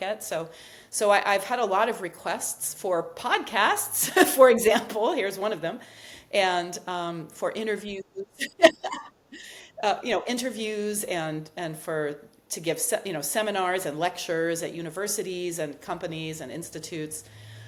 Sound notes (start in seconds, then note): 8.2 chuckles